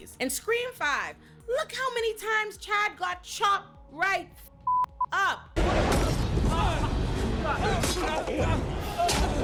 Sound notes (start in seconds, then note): 4.6 beep; 5.6 crowd yelling